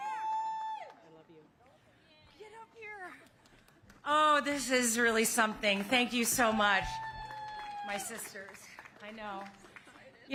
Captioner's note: cheers and applause